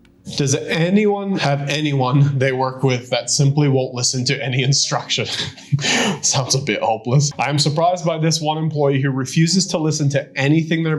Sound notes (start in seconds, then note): 4.8 chuckles